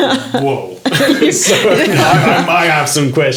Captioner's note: laughing